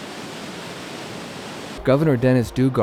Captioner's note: water rushing